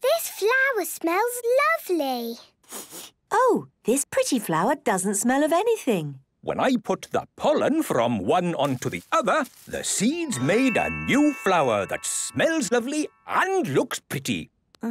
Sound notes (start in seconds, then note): 2.6 sniffs